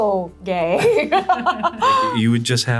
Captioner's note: laughs